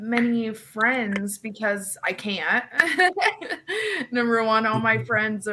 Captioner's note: laughs